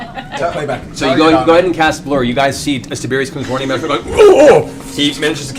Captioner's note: startled sounds